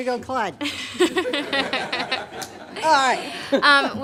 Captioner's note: laughter